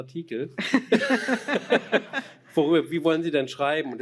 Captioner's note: laughter